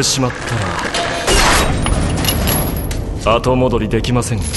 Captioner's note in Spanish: objeto abriéndose; sonido de cadenas; objeto abriéndose; sonido de cadenas